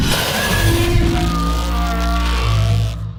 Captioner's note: snarling and an ear-splitting roar